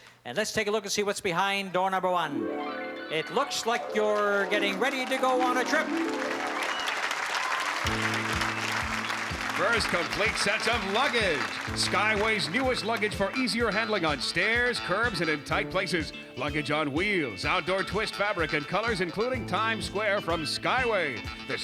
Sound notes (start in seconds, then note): 6.6 applause